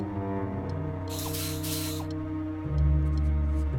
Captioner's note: whirring